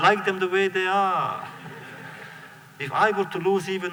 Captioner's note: laughter